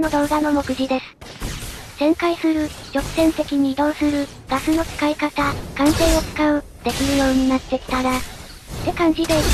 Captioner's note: swinging